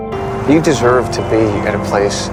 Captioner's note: voiceover